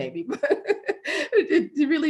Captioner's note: laughing